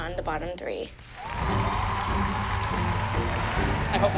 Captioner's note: cheering